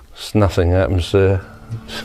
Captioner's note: giggling